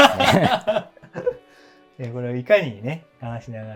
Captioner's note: laughing